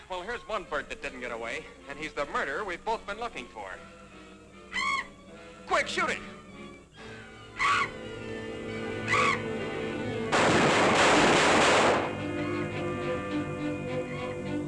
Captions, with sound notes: - Well, here's one bird that didn't get away and he's the murderer we've both been looking for. (bat shrieks) Quick, shoot it! (gun roaring)